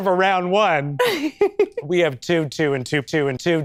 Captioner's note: chuckles